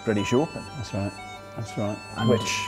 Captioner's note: with British accent